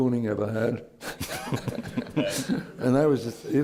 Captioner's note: laughter